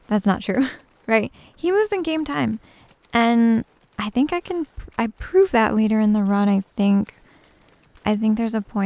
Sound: giggles

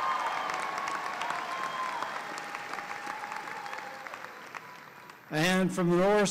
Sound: applause

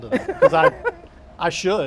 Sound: laughing

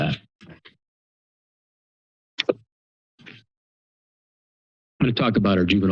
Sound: pause

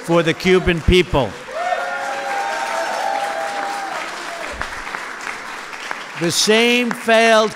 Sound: applause

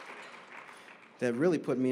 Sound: applause

